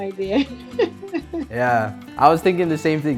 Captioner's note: laugh